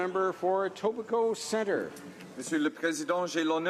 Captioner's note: speaking French